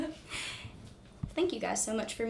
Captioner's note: laughs